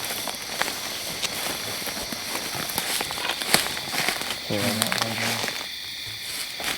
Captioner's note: grass rustles; insects chirp